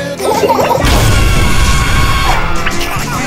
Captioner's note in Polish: Krzyk Skauta